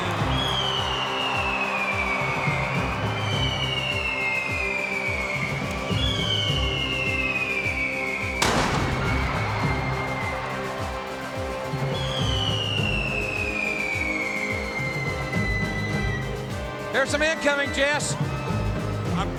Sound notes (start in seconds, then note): 0.2 crowd cheers; 2.2 pyro whistling; 8.4 pyro booms